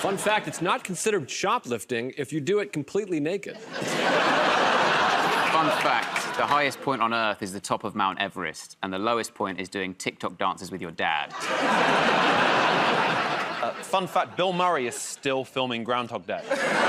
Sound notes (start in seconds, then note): 3.5 laughter; 11.3 laughter